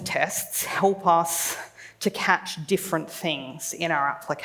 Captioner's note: none